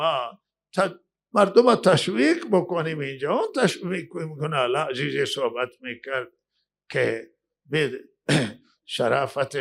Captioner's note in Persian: گلویش را صاف می‌کند